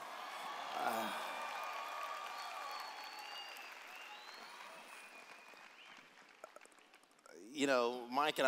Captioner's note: cheers